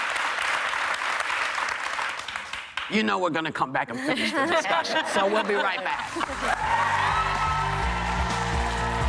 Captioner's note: applause